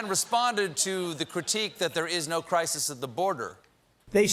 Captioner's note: laughter